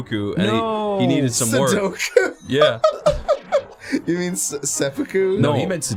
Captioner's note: laughs